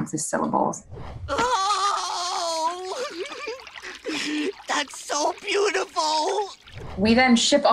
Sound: cries

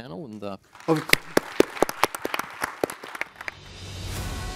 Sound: applause

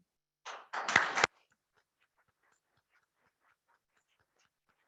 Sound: clapping

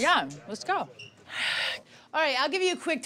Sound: sighs

